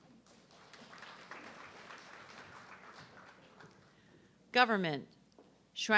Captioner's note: audience clapping